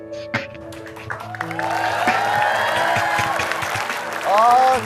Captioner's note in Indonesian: Tepukan penonton